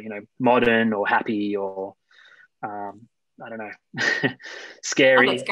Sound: laughter

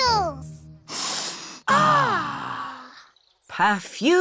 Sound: all sniff

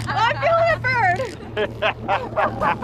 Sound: laughs

